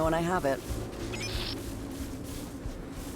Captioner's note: beeps; suspenseful music